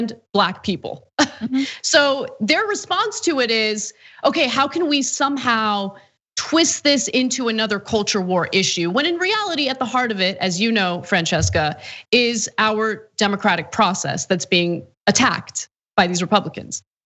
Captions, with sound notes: black people. [LAUGH] So their response to it is, okay, how can we somehow twist this into another culture war issue. When in reality at the heart of it, as you know, Francesca, is our democratic process that's being attacked by these republicans.